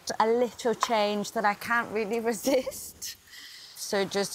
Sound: chuckles

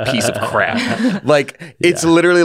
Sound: laughing

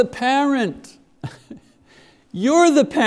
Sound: chuckles

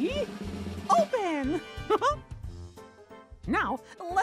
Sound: laughs

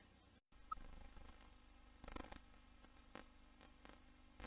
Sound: VHS static

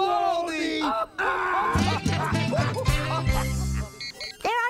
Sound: laughter

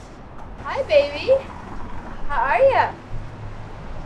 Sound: none

